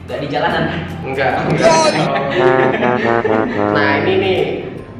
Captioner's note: laugh